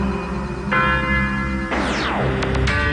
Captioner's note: another single chime of the big bell; zzap!